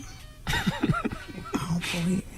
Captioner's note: laughing